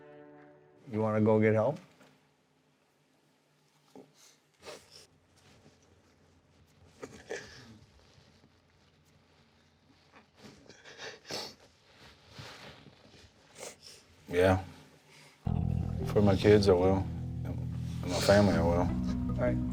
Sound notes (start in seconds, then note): 7.0 sobbing; 10.4 sniffles